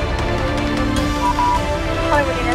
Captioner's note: phone beeping